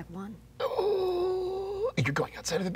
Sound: groaning

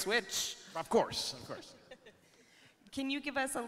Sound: chuckling

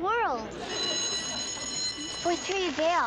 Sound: bell ringing

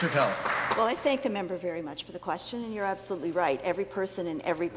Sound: some Applause

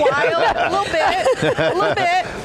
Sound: panel hosts laughing

